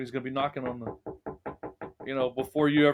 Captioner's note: knocking sound